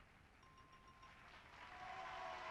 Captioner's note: bell chimes; audience applauds